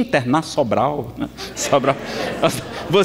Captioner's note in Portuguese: Risadas